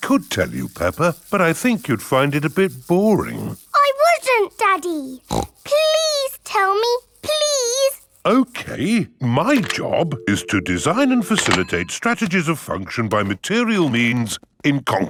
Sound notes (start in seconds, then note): 5.1 snorts